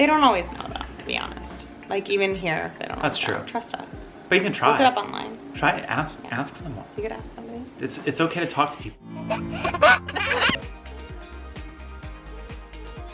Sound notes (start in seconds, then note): 9.1 laughs; 10.4 upbeat music